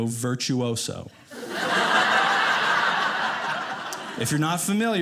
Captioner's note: audience laughing